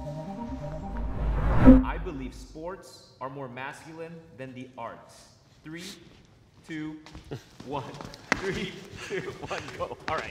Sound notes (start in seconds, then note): 8.8 all laughing